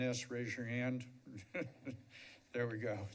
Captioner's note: laughs